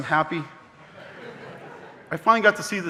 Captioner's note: audience laughing